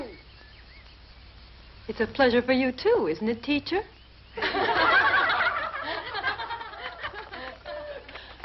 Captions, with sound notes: - It's a pleasure for you too, isn't it, teacher? (girls laughing)